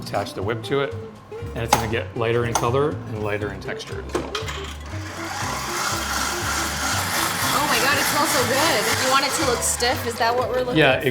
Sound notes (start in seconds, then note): 4.6 mixer whirring